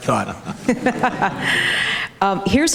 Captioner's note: audience, moderator laugh